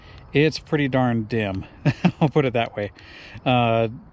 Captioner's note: chuckles